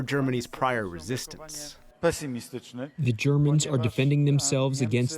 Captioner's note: through translator